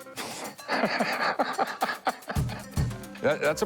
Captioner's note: laughter